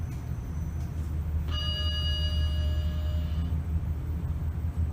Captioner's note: ding